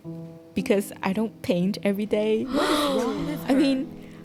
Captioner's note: gasp